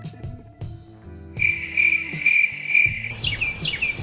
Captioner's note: crickets chirping; brids singing